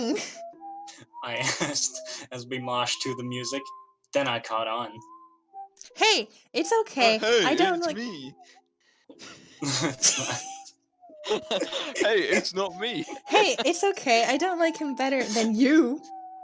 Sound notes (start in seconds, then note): 11.2 nervous laughter